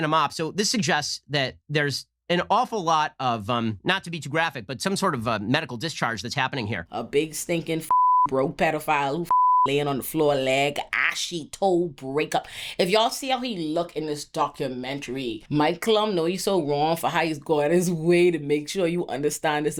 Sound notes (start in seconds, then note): 7.8 beep